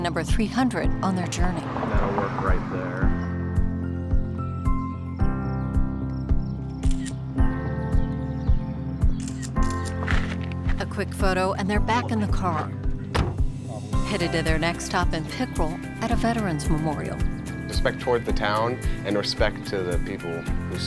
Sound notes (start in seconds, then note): 4.4 soft music; 9.2 camera clicking